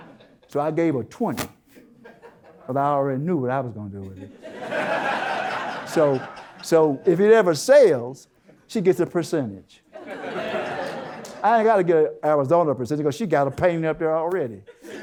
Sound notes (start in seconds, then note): 0.0 audience Laughter; 4.2 audience Laughter; 10.0 audience Laughter; 14.7 audience Laughter